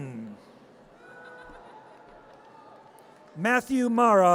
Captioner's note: audience cheers